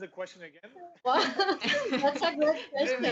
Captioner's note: laughter